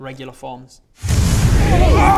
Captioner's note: phwoooosh